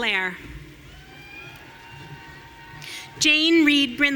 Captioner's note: audience cheering